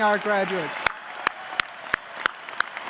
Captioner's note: clapping